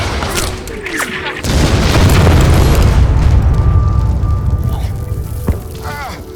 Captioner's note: explosion blasts; bullets whizzing; men grunt; Stephen grunting